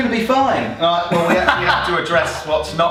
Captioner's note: laughing